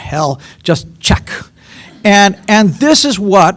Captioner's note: laughter